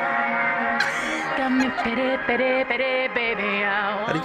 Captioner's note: giggling